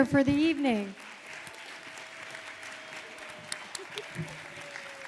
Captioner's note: audience applauding